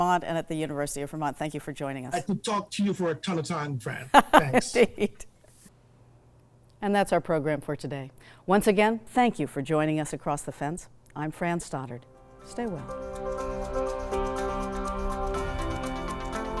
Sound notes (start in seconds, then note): 3.9 laughs; 12.3 upbeat music